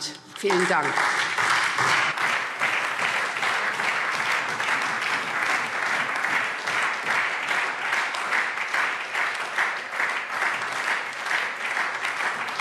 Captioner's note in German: Anhaltender Beifall SPD und Freie Demokraten